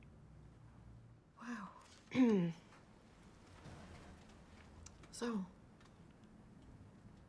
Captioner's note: clears throat